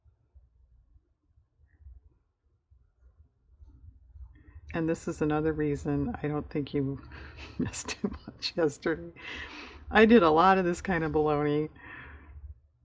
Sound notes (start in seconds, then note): 7.1 laughs